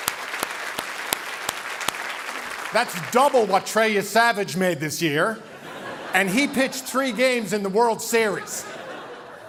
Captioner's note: cheering and Applause